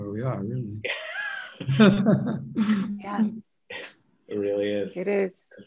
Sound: laughing

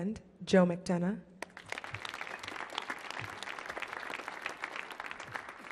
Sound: audience clapping

